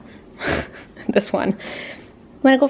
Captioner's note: laughing